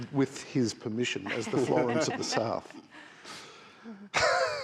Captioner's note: laughs